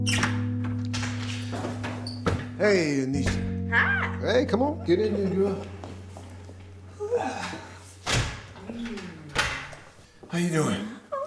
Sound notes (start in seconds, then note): 0.0 opening door; 6.9 sighing; 7.2 closing door